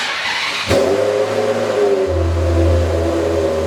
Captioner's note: engine revs